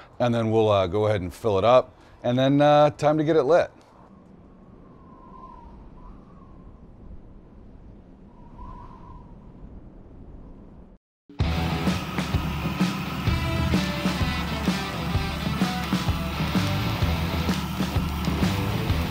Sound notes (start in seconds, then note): 5.4 breeze blowing; 11.4 flames burning; 11.5 upbeat rock music